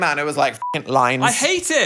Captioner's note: beep